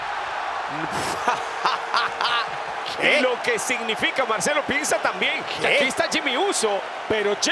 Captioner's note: laugh